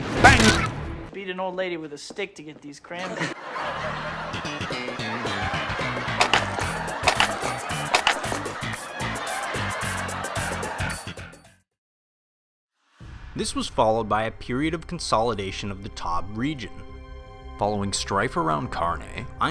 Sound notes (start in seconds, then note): 0.0 bang; 3.0 excessively poor taste laughing cacophony